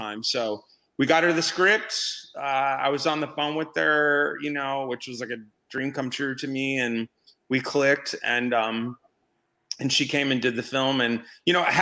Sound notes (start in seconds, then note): none